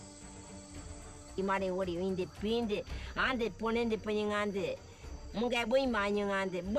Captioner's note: speaking in foreign language